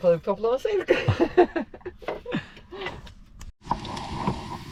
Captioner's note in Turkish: kahkaha